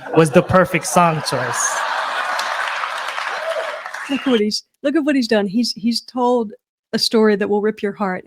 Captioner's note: laughter